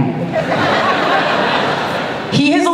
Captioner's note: laughter